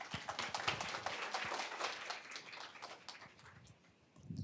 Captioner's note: applause